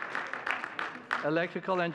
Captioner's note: audience cheering and clapping; audience clapping